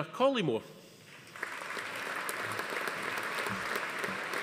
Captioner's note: audience applauding